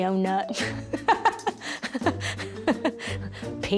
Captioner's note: laughing